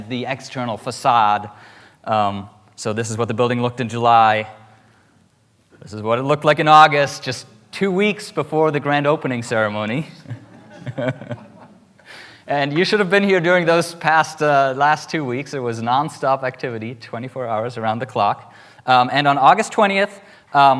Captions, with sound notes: and the external facade. So this is what the building looked in July. This is what it looked like in August, just two weeks before the grand opening ceremony. (laughs) And you should have been here during those last two weeks. It was nonstop activity, 24 hours around the clock. And on August 20th,